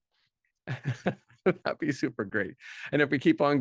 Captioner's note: laughs